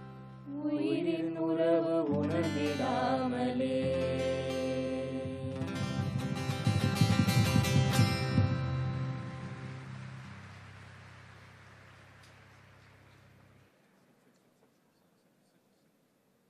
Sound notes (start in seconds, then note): 8.9 applause